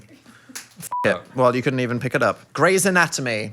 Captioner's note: beep